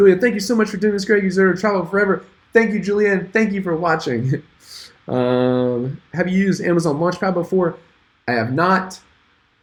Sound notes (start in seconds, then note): 5.1 chuckles